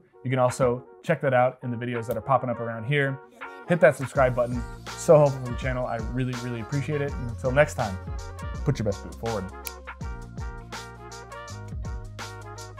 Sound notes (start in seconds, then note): 9.6 upbeat music; 9.6 snaps fingers